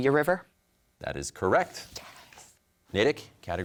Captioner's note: whispers